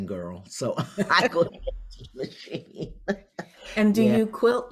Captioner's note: both laugh